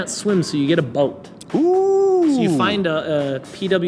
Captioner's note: makes sound effect